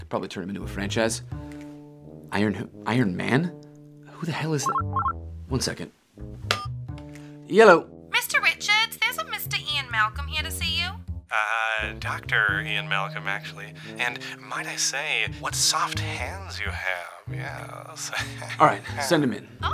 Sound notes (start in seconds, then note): 4.7 phone ringing; 18.1 chuckling